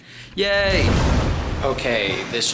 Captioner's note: lightning zapping